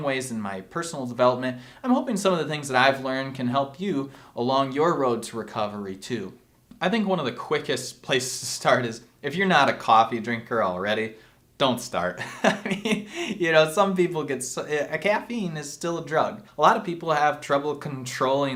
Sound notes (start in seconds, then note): 12.2 laughs